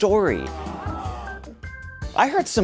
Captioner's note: crowd